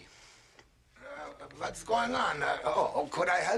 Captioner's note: German accent